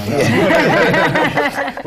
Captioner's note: laughter